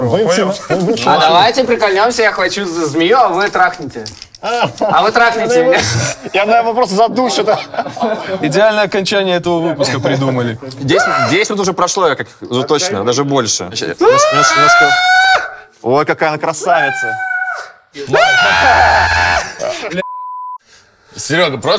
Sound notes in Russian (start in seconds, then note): 14.0 крик